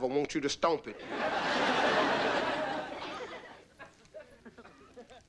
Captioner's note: audience laughing